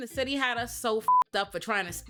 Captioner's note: beep